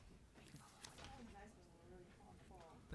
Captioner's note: speaking faintly